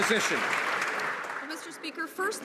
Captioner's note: some Applause